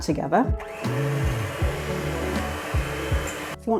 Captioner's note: mixer hum